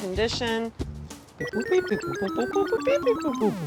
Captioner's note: digital beeping